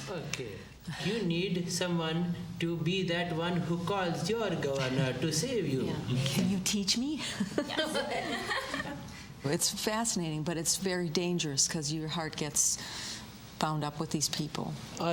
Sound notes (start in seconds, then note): 7.4 all Chuckle; 7.6 全都笑起来